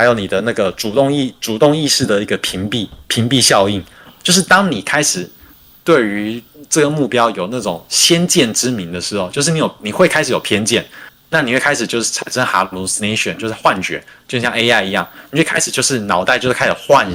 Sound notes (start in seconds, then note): 0.0 non-english speech